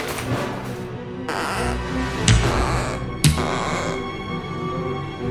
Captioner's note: rubber of the replacement underpants is stretched